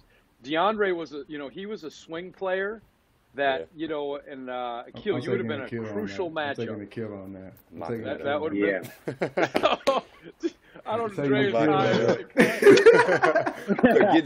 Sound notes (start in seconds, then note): 8.8 laughter